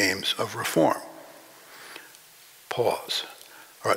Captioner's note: breathe